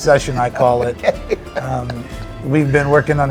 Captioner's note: laughing